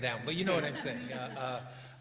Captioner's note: laughter